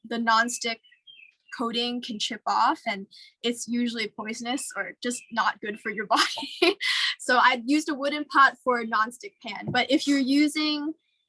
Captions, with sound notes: the nonstick coating can chip off, and it's usually poisonous or just not good for your body. (laughs) So I used a wooden pot for a non-stick pan. But if you're using,